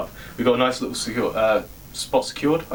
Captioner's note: insecure sounds